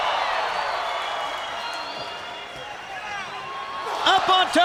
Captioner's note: crowd cheering